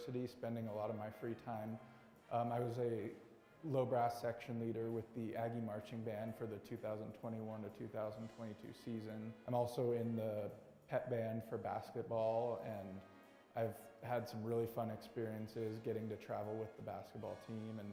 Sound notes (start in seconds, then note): none